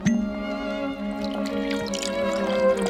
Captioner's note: drink being poured